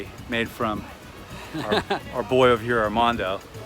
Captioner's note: laughing